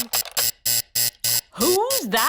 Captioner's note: alarm buzzes